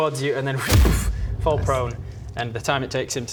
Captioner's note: boof